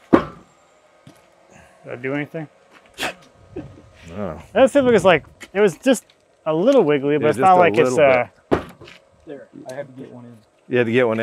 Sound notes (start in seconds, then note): 0.0 feet thudding; 3.0 chuckling; 8.4 feet thudding